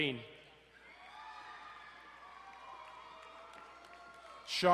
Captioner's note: crowd cheering